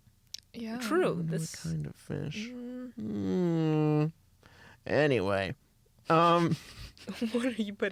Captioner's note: laughs